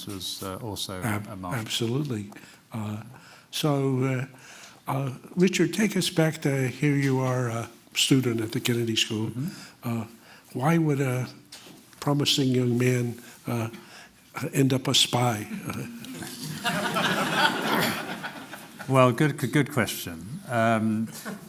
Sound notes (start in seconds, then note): 15.5 laughter